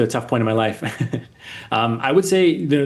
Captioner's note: chuckling